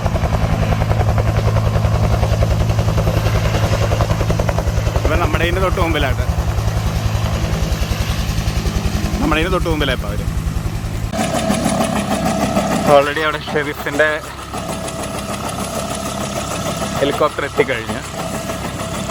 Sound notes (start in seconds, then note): 0.0 helicopter whirring; 6.6 helicopter whirring